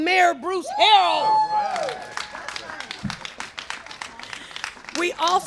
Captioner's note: cheers and applause